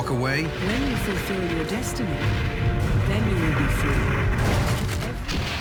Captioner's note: mechanical voice